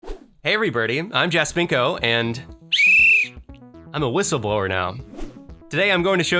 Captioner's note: blows whistle